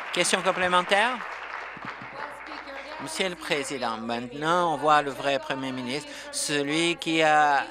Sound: applause

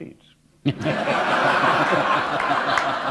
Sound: laughter

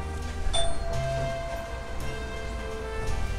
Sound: doorbell chimes

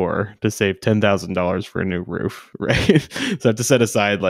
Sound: scoffs

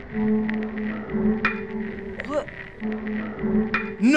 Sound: unsettling music; head clacking

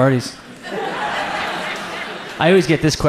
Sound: audience laughs

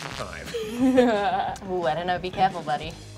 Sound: laughs

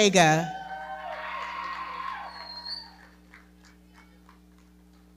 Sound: audience cheering and clapping

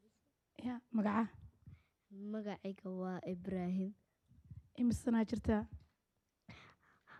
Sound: speaking Somali

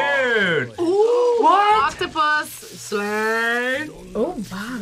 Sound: gasps

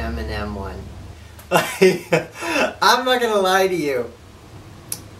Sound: laughs

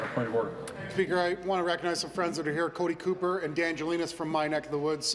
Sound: applause

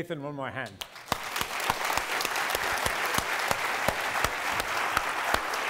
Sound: applause

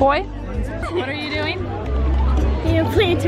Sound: laughing

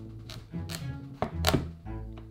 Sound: knife cutting

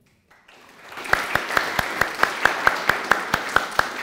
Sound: applause

